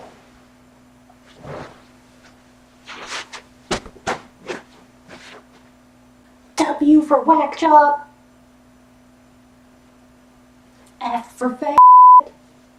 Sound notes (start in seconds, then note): 6.5 shouting from a distance